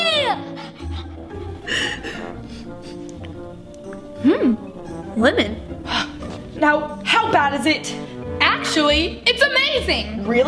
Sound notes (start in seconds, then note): 0.3 sniffling